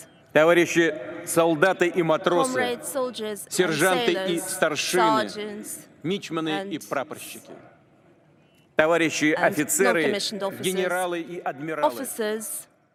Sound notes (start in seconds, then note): 1.1 speaking russian